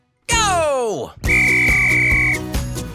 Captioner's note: whistle blowing